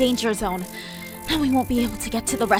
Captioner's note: deep breath